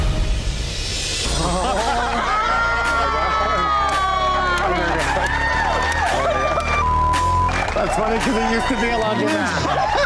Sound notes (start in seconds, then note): 2.5 shouting